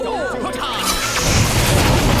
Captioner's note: incredibly dangerous slicing noises